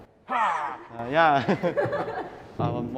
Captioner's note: laughs